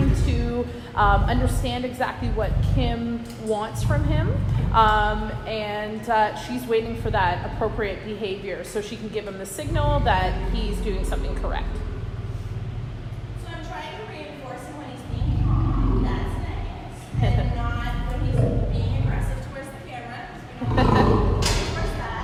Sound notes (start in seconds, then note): 15.0 low lion growl; 20.6 lion growl